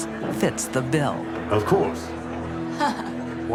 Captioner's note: chuckles